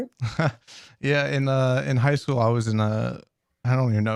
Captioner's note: laughs